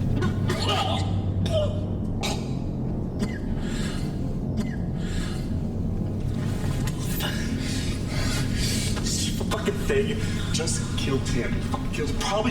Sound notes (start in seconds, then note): 2.6 coughs